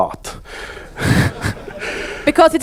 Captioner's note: audience laugh